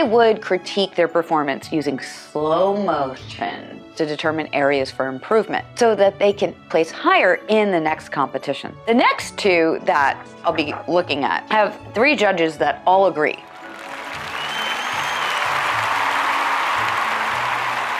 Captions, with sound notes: I would critique their performance using slow motion to determine areas for improvement. So that they can place higher in the next competition. The next two that I'll be looking at, have three judges that all agree. [applause].